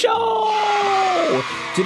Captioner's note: screaming